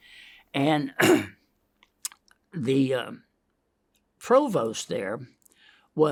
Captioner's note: clears throat